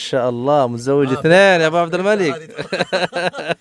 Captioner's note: Arabic